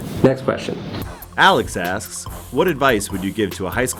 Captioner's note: voiceover